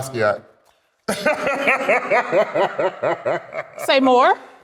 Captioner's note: laughs